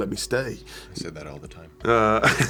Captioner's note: laughing